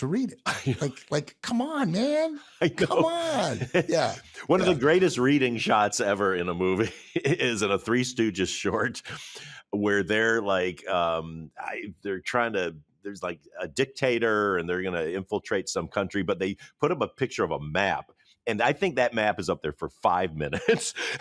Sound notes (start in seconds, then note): 2.5 laughs; 8.7 chuckles; 20.5 chuckles; 20.5 laughs